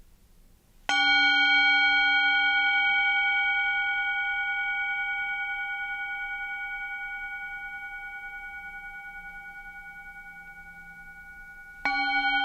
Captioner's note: bell toned